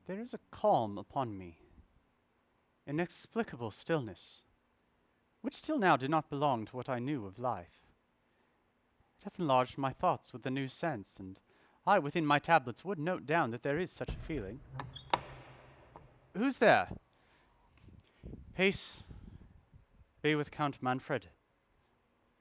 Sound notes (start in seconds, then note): 13.8 door Opening